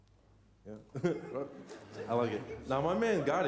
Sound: laughter

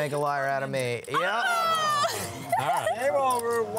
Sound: laughing

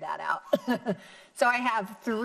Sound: chuckling

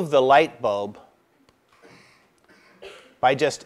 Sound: cough

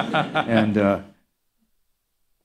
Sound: laughter

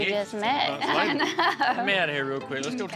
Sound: laughs

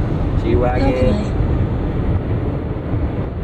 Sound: computerized Voice

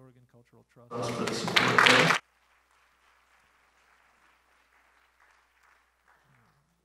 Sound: applause

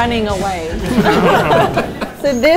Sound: murmurs; laughing

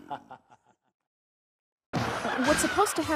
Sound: laughs

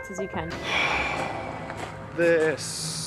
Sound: sigh

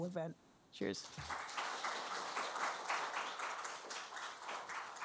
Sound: applause

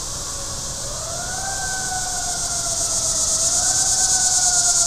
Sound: sirens blaring

